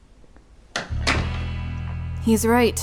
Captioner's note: door closes